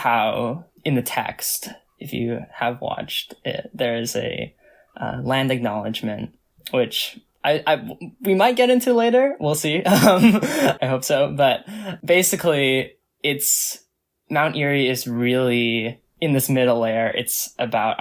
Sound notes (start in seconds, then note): 9.9 laughs